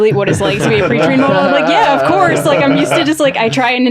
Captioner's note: everyone laughing